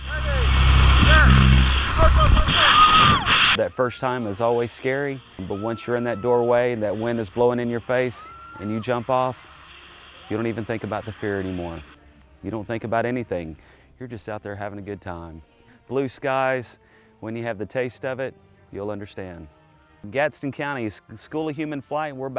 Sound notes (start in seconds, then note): 0.0 engine humming loudly; 2.4 woman screams